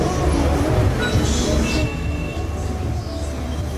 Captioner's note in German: Autolärm; Singende asiatische Stimme